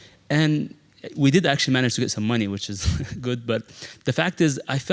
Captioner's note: laugh